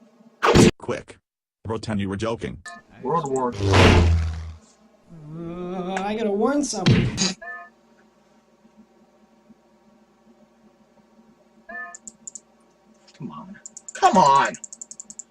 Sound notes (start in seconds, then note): 3.4 bonk; 6.8 smack